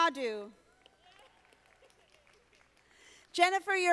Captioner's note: audience applauding